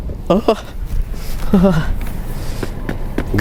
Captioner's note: shivering